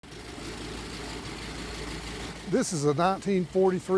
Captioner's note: plane propellers buzzing